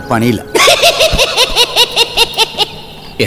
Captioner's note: Cycle laughs